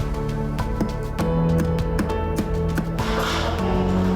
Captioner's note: hammer thumping